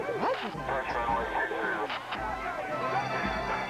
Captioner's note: radio transmission